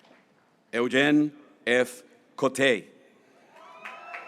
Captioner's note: graduates cheering